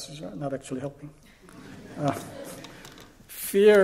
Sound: laughter

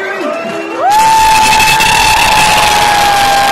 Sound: wooh!

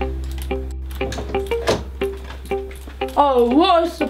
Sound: door opening

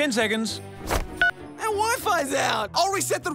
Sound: cell phone beeps

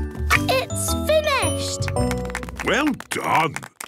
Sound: applause

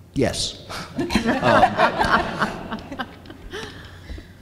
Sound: audience laughs

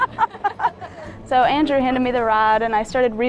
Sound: laughs

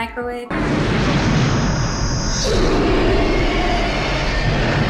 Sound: explosion whirring

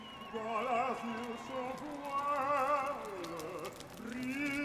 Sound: revelry and fire crackling

